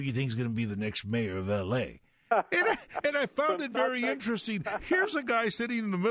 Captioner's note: laughing